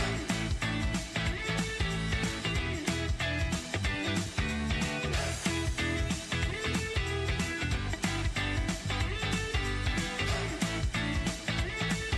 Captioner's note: applause